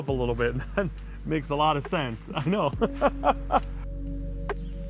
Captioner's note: chuckles